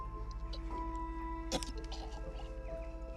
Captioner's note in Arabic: إسكات